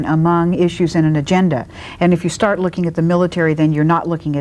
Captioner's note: none